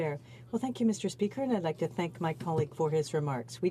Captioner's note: speaking French